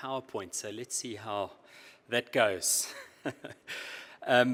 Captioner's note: laughs